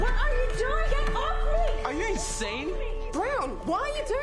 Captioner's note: shouts